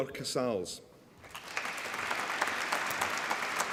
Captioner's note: applause